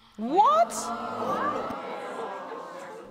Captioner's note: audience gasps